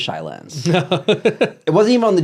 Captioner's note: laughs